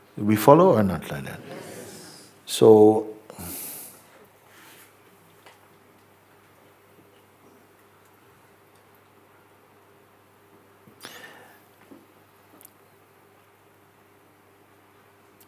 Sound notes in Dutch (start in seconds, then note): 6.1 stilte